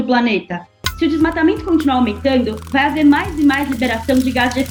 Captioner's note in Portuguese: estalos de fogo